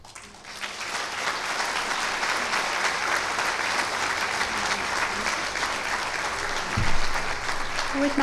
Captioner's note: clapping